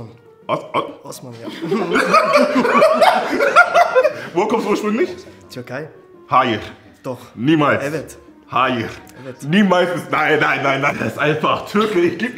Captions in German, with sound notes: O-o- ... - Osman, ja. (Lachen) Woher kommst du ursprünglich? - Türkei. Hayır. - Doch. Niemals. - Evet. Hayır. - Evet. Niemals ... Nein, nein, nein, nein, das ist einfach Türke.